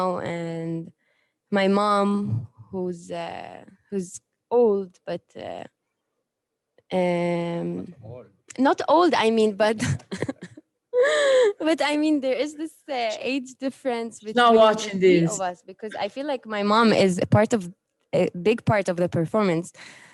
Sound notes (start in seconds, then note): 9.8 laughter